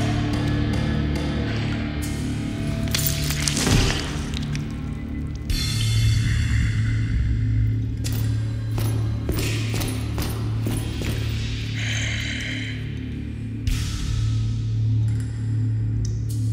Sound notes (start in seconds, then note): 2.8 crucnh; 11.1 breath